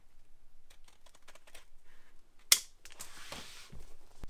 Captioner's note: scissors snipping